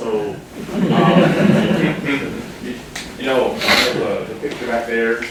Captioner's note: students laughing